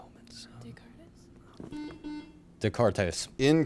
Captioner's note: buzzer chimes